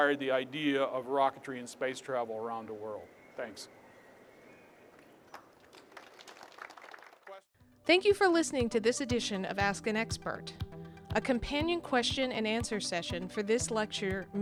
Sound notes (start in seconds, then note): 5.4 applause